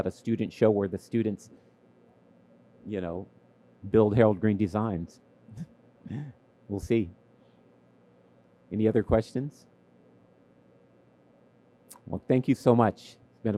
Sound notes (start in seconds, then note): 6.1 laughs